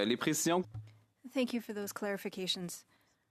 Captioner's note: speaking French